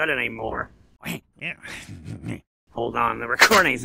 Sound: snickering

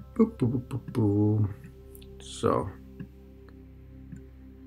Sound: playful humming

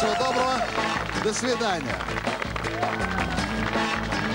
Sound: applause

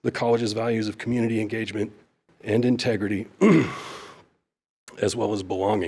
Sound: coughs

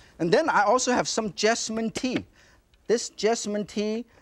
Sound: hands tap

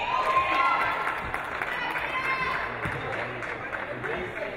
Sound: audience cheering

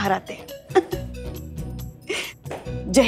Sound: laughs

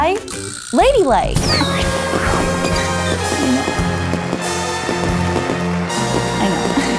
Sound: horns blowing; triumphant music

